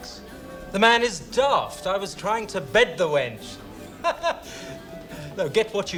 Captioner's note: laughs